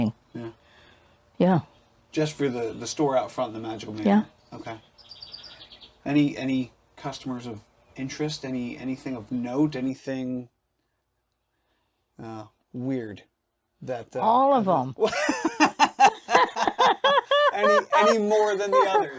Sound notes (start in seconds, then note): 3.4 birds chirping; 15.0 laugh cheerfully